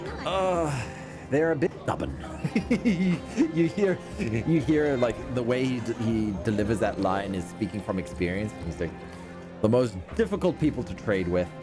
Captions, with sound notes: Ugh, they're a bit stubborn. (laughs) You hear, like, the way he delivers that line is speaking from experience, and he's like, "The most difficult people to trade with,